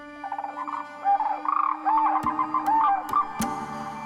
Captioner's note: animals hooting